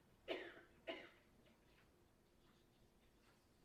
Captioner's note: coughs loudly